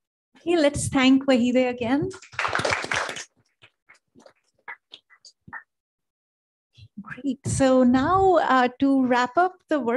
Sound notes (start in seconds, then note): 2.1 applause